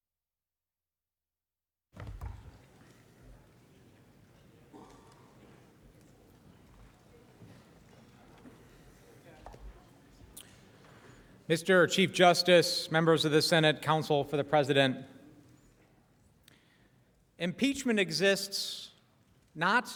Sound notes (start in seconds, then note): 8.6 silence